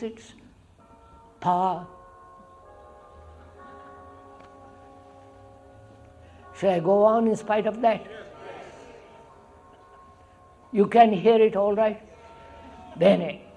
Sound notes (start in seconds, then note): 0.5 sound of bells